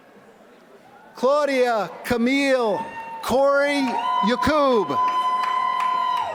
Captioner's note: applause